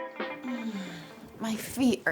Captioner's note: Jessica groans